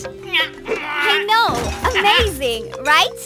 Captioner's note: chuckling